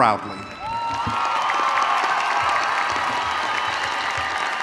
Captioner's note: audience cheering